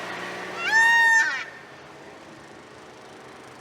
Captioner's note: peacock calls